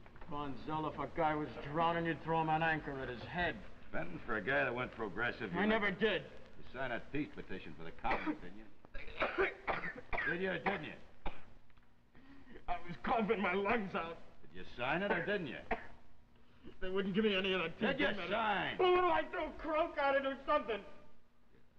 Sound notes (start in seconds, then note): 8.0 Freddie coughing; 15.6 Freddie, coughing